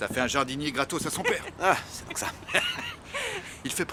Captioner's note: laughing